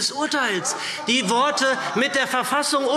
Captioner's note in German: Heiterkeit SPD